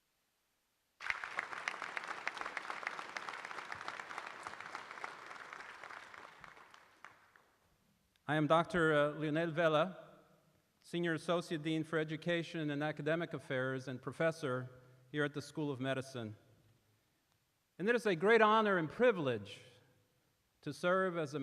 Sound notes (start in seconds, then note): 7.9 applause